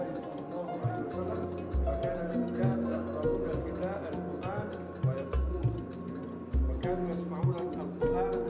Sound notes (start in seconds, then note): 0.0 gentle instrumental music; 2.7 speaking in a foreign language